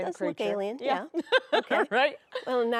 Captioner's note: laughs